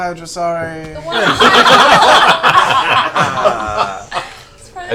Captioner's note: laughter